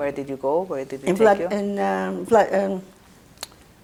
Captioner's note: mumbling